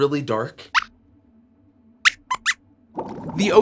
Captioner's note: squeaks squeaks